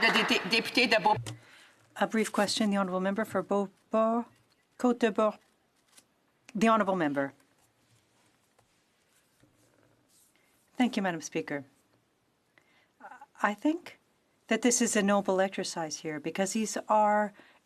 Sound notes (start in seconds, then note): 4.8 speaking French